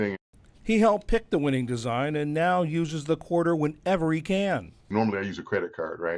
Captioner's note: voice-over